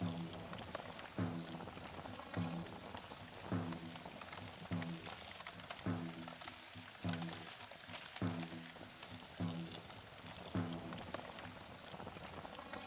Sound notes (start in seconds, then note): 6.4 sound of flames crackling; 8.0 native american drumbeat